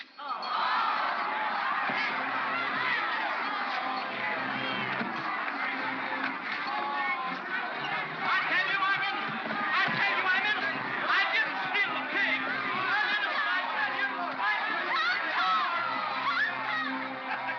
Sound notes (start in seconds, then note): 0.2 crowd clamors in protest; 13.2 crowd clamors; 17.2 Barnaby laughs